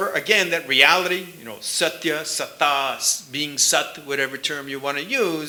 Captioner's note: sanskrit